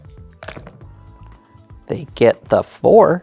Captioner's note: dice rattling; dice rolling